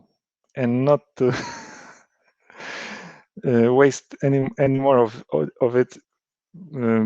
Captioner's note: giggles